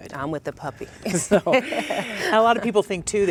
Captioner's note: laughs